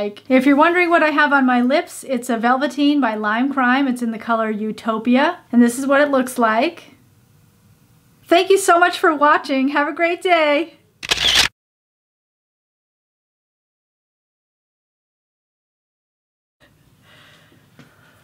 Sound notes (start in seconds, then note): 11.0 camera shutter sound; 11.5 silence